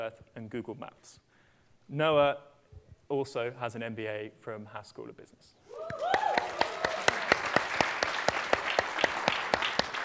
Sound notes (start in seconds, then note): 5.8 applause